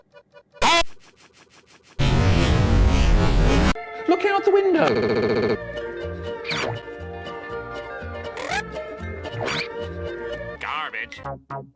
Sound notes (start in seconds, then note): 0.4 SpongeBob, distorted; 2.0 loud distorted noise